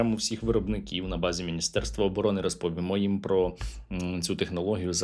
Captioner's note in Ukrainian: сопіння